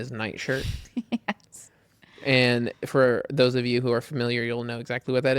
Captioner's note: laughs